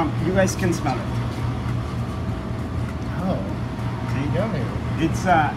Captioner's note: soft exclamation